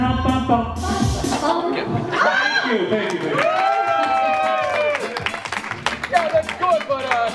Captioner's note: applause